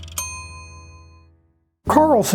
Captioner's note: ding